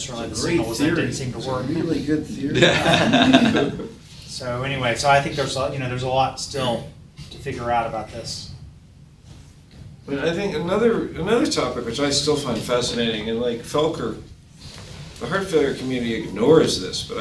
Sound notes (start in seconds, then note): 2.4 people laughing